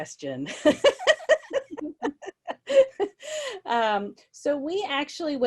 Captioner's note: laughs gently